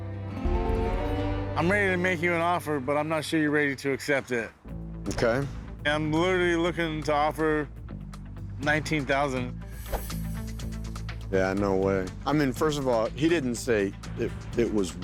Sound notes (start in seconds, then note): none